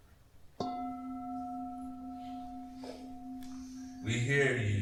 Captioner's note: gong of a bell